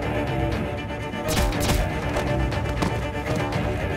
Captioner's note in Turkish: Silah sesleri